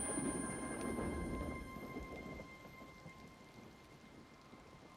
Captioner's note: thundering